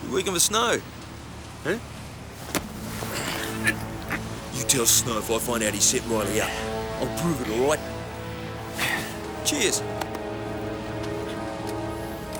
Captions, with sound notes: - You're working for Snow? - Huh? (suspenseful music) (Roach groans) - You tell Snow if I found out he set Riley up, I'll prove it, all right? (Roach sighs) Cheers. (hand tapping)